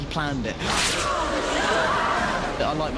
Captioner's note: students gasp and murmur